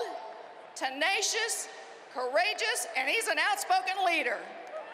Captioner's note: cheering and applause